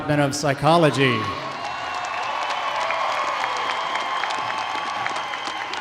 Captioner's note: audience cheers and applauds